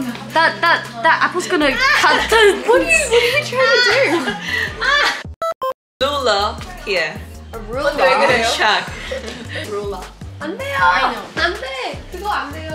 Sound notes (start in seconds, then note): 4.1 one person just can't hold back her laughter; 5.3 hahahahahaha